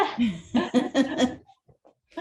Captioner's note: laughing